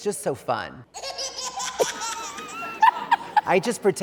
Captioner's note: baby giggling